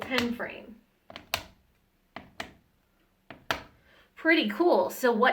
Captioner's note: solid tapping